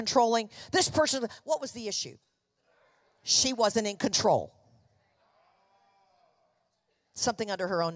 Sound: congregation affirming

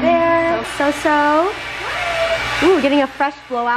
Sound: hair dryer running

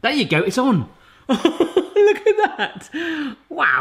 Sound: laughs

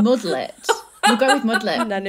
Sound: laughs

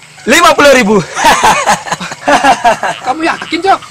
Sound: laughs

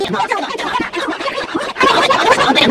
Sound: annoying boy and girl yelling

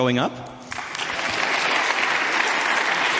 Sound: audience clapping

